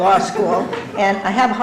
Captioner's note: laughter